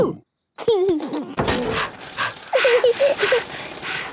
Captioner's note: chuckles; daddy pig panting; mummy pig panting; peppa chuckles